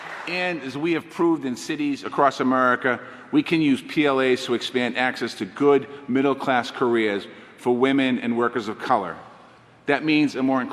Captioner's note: applause